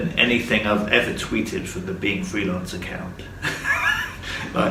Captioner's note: laughs